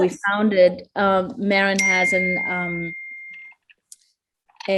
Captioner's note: phone dings